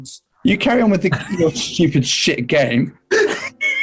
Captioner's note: sniggering; giggling